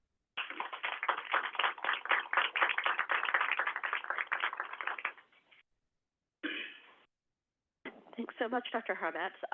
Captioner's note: applause